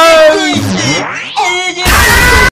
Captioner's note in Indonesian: tom scream like a stupid